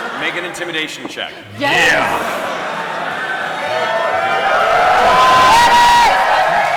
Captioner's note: cheering